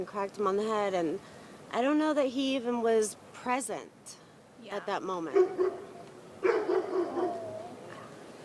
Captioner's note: dog barks offscreen